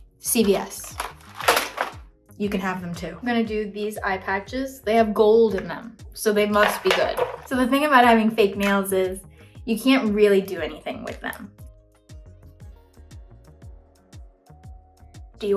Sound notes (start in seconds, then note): 0.7 package clattering; 6.5 lid clatters